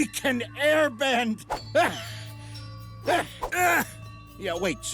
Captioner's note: grunting